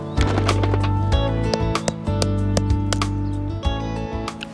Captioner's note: tapping